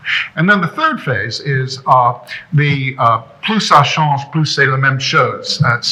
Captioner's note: speaking foreign language